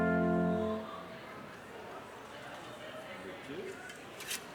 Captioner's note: crowd chattering